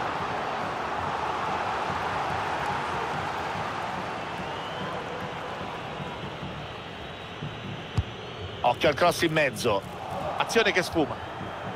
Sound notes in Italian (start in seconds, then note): 7.2 Applauso